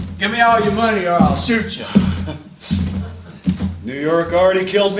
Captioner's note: horselaugh